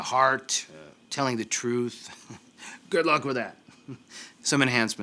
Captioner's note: chuckles